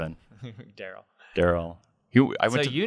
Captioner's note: laughs